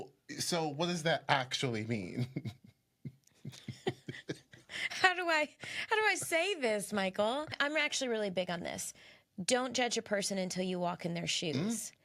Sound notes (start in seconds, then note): 3.4 both laughing